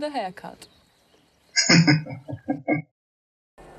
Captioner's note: laughing